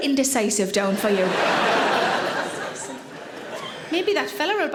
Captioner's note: audience laughing